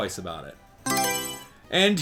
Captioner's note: Mario Selection Sound